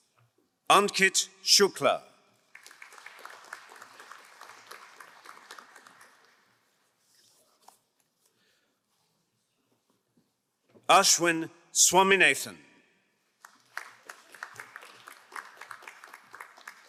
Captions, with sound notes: Ankit Shukla. (crowd applauding) Ashwin Swamenesen. (crowd applauding)